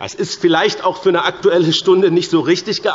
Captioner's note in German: none